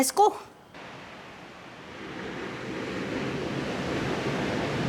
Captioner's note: waves crashing